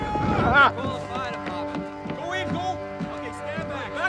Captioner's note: indistinct chatter